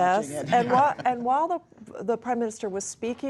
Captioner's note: laughter